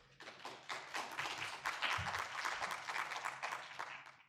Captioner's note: audience applauding